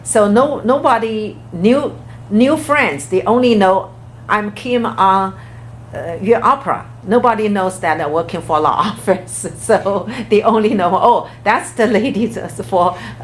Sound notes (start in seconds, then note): 9.6 laughs